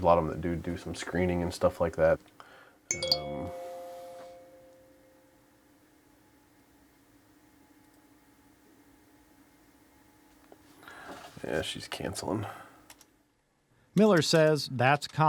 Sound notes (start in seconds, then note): 2.9 text message tone